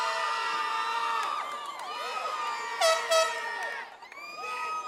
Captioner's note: audience cheers